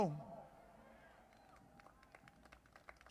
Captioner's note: applause